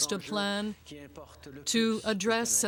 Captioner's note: speaking French